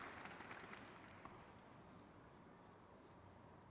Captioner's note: crowd claps